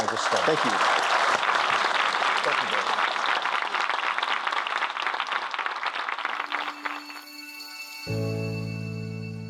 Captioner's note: applause